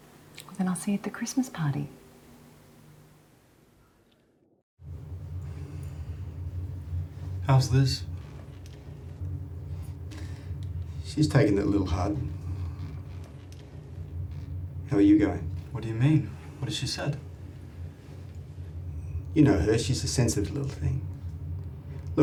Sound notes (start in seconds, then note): none